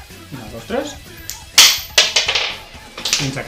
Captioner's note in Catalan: cau una moneda a terra